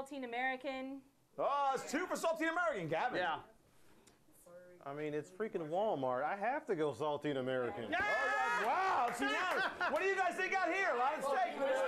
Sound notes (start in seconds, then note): 9.4 laughter